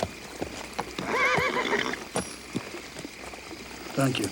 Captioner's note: horse neighs